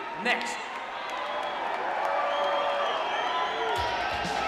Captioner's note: crowd cheering